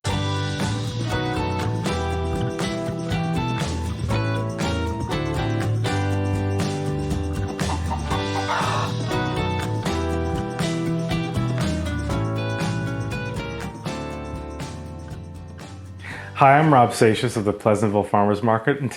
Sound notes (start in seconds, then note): 0.0 upbeat music; 7.5 chicken clucks